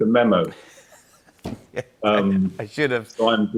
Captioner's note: laughs